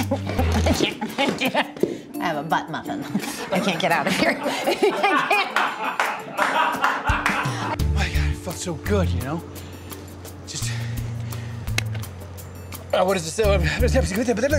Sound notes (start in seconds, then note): 0.0 chair scraping; 0.0 laughs; 4.6 crew laughing